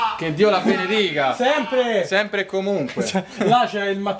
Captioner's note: cheering together about it